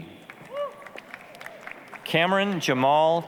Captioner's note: applause, cheering